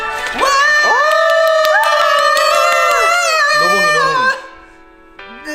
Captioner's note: cheering